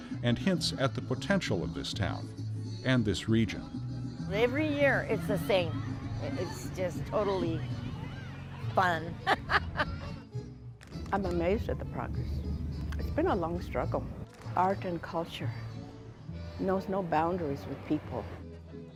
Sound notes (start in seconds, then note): 7.9 laughs